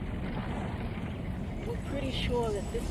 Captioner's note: vehicle rumbling